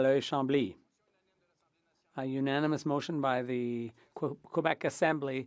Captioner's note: speaking French